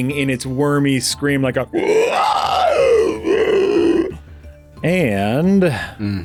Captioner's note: flaming horrible worm screams